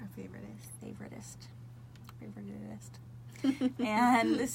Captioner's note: both laugh